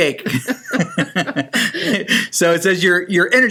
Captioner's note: laughter